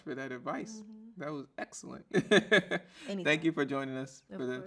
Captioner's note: laughs